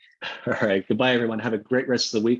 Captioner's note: laughs